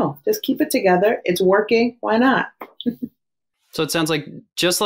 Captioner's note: chuckles